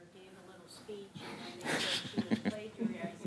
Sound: snickering

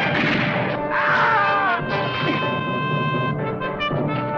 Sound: man screaming

